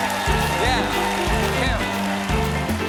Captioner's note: cheers and applause